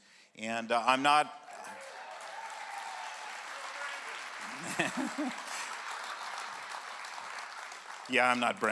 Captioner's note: clap